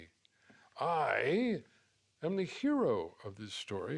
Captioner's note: none